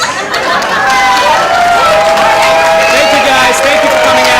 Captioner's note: cheering